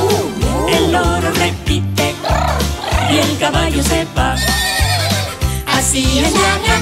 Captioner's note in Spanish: Relincho